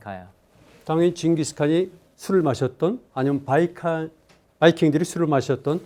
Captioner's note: speaking in Korean